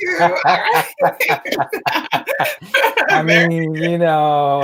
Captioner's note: laughing